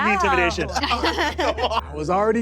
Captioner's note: players laughing